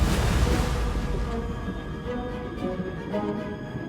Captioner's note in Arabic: تحطم الأمواج